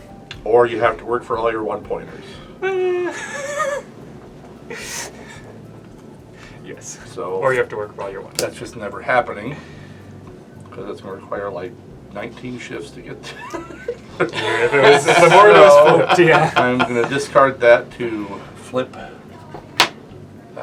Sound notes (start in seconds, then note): 16.5 laughter